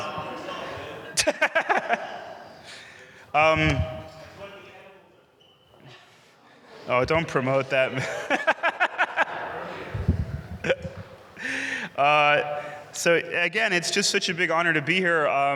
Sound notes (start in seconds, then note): 7.9 laughs